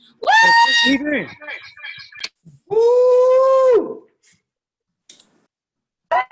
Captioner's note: cheering